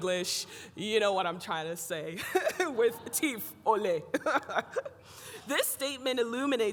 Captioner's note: laughs